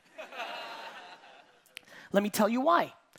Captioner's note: audience laughing